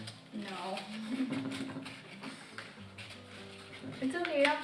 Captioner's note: laughing